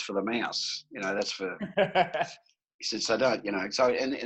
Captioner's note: laughing